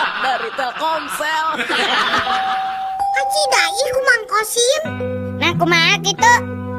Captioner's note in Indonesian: tertawa